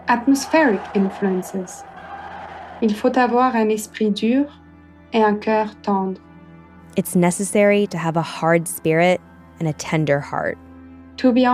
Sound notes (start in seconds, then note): 2.3 speaking German